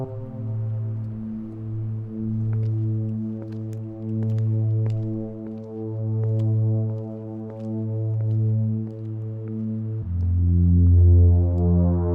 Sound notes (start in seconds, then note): 4.4 footsteps clack